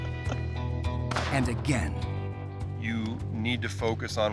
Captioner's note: laughing; gunshot echoes